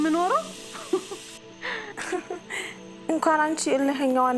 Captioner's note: laughter